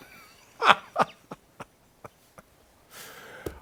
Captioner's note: laughter